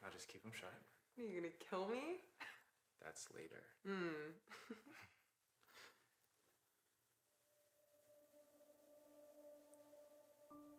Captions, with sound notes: Now just keep 'em shut. - Are you gonna kill me? - That's later. - Mm. (chuckles) (soft music)